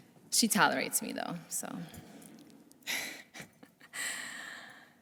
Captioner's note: laughs